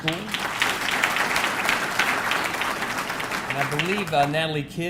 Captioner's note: audience clapping